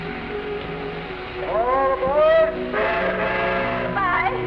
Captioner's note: train whistle blows